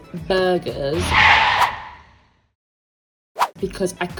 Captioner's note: car skidding